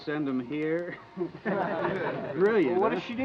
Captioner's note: men chuckling